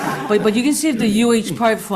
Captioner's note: everybody laughing